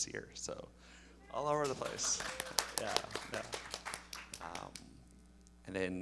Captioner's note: audience applauding